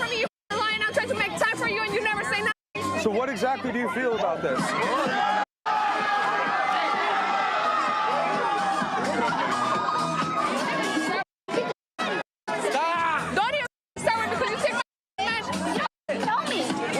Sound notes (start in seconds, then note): 3.8 crowd yelling